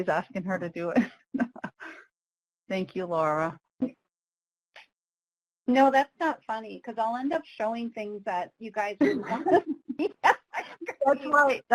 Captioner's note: laughs